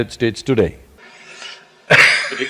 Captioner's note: laughs